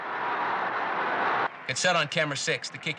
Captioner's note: crowd cheering